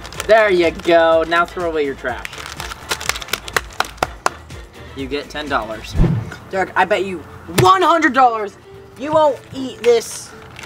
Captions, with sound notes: - There you go. Now throw away your trash. (clapping) You get $10. - Derek, I bet you $100 you won't eat this.